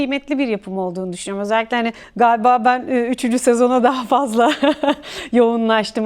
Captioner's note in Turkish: kahkaha